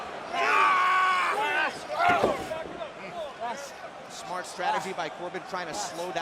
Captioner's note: crowd chatter